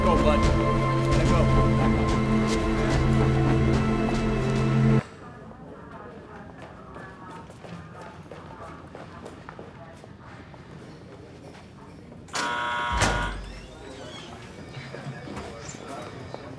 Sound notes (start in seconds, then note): 5.4 footsteps plod; 12.3 buzzer buzzes; 14.0 door creaks